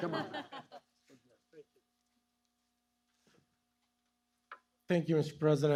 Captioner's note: laughter